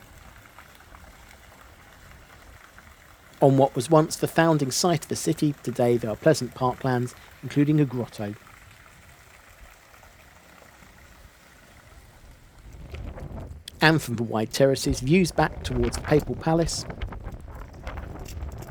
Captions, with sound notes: On what was once the founding site of the city, today there are pleasant park lands including a grotto. [SOUND OF RUNNING WATER] And from the wide terraces views back towards the Papal Palace